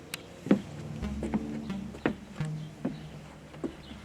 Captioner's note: footsteps thudding